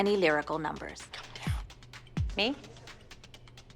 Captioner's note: whispering